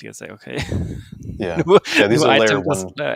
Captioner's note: laughs